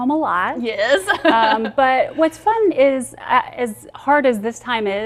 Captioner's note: laughs